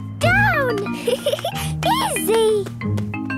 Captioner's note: giggling